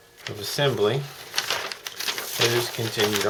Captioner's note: rustle of paper